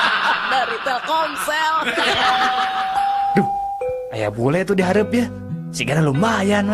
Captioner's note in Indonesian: tertawa